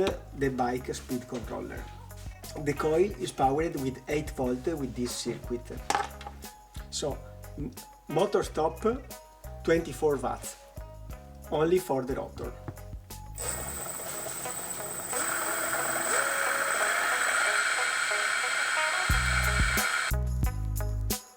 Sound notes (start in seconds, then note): 13.3 machine whirring; 16.6 laid back music